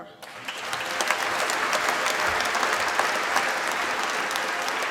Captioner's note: applause